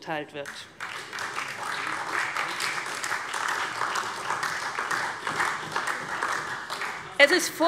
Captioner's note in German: Beifall SPD